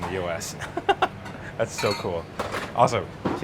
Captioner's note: chuckles